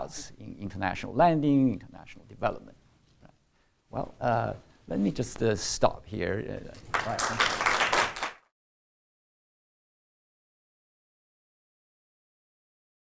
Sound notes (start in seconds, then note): 6.8 applause